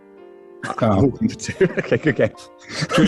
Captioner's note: laughing